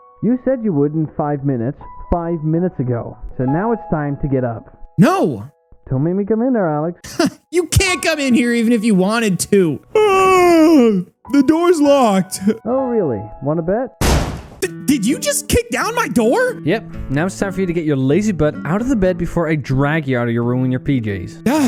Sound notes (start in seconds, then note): 9.9 yawns; 14.0 loud Crash